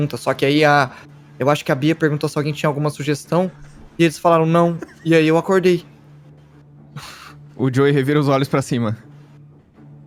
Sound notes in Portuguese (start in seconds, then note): 4.6 risos